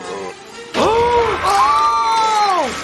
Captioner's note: both screaming